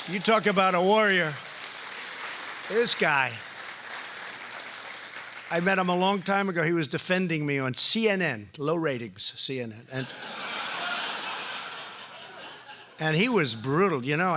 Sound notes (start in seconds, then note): 4.2 applause; 10.0 laughter